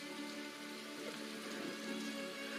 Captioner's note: none